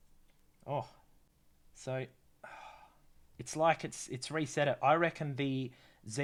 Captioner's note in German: seufz